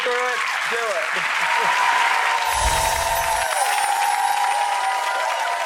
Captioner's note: audience applauding